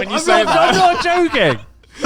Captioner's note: all laughing